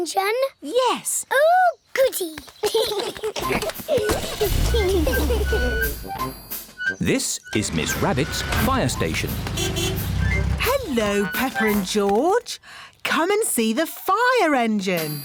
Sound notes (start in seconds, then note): 2.6 both giggling; 9.4 horn honks